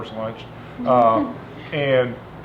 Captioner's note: laughing